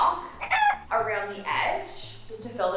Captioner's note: rooster crowing